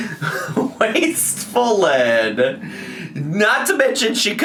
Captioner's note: laughs